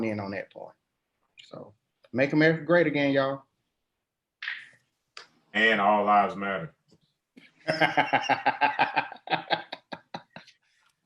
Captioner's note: laughing